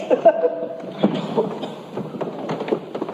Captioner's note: laughs; coughing